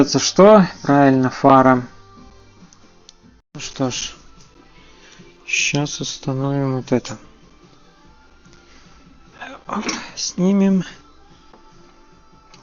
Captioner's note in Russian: откашливается